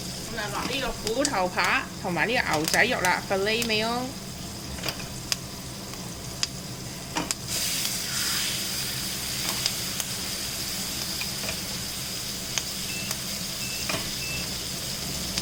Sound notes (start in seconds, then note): 7.9 sizzling sound